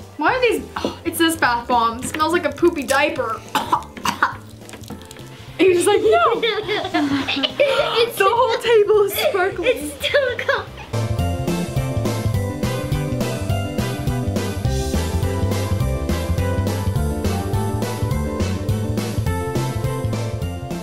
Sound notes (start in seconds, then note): 3.4 coughs; 6.1 laughs; 11.3 upbeat music